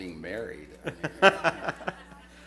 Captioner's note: laughter